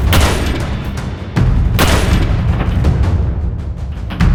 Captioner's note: gun fires